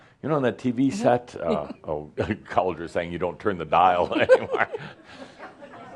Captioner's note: laughter